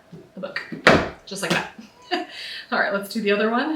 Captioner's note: laughs